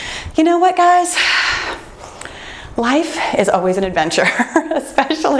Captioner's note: laughs